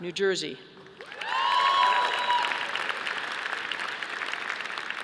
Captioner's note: audience applauding